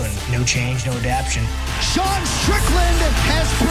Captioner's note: air horn blasts